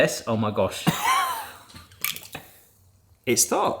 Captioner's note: laughs